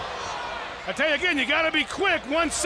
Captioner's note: crowd chatter